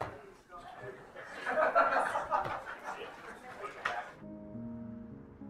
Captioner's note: crown laughing and chattering; light airy music